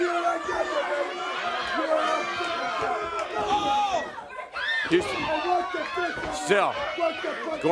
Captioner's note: crowd cheering